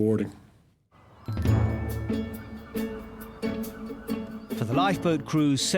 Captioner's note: seagulls squawking; upbeat music